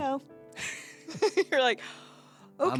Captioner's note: laughs